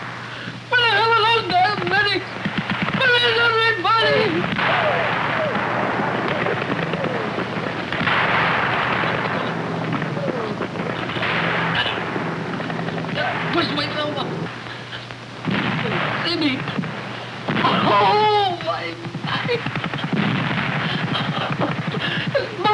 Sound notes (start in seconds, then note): 4.0 explosion, machine gun firing; 19.0 explosion, machine gun firing